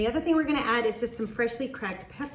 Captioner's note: pepper mill grinds